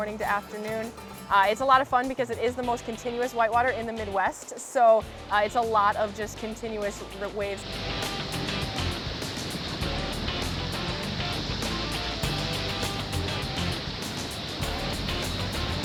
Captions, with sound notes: it can be morning to afternoon. It's a lot of fun because it is the most continuous white water in the mid-west. So it's a lot of just continuous waves. (water rushing) (upbeat rock music)